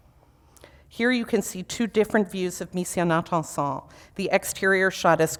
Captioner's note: foreign language